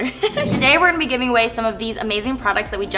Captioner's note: loud swoosh